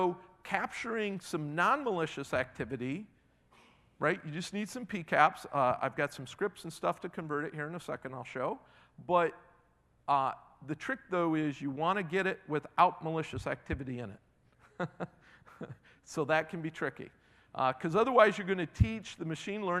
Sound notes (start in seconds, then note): 14.7 laughing